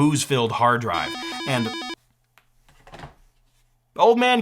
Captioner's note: phone ringing